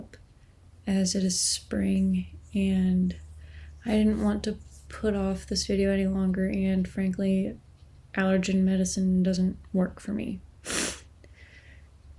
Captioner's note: sniff